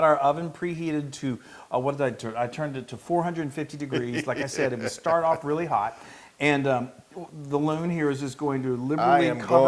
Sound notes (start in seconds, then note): 3.8 laugh